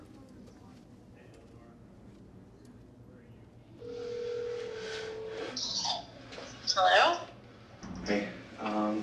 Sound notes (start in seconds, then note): 3.7 phone dialing